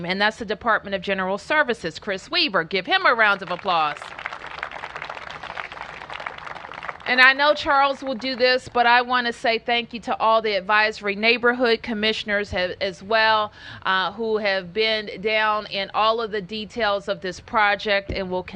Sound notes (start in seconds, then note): 5.4 applause